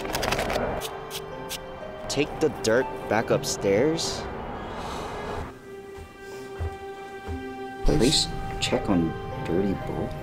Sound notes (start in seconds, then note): 4.7 sigh